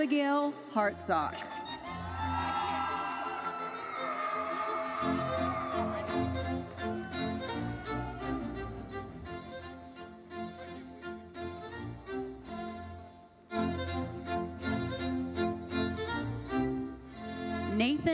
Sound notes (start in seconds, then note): 1.6 audience cheering and applauding; 6.9 orchestral music continues